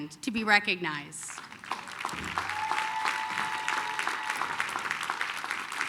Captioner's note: applause, cheering